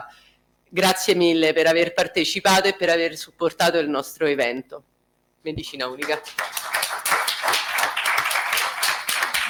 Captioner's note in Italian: Applauso